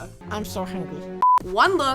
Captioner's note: beep